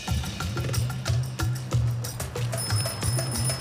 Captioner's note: bicycle bell